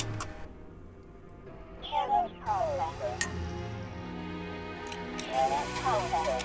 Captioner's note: distorted voice echoing; static crackling